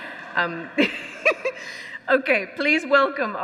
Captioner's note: laughs; audience laughs